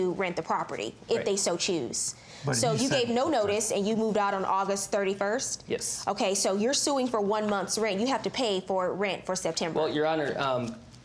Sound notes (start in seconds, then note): none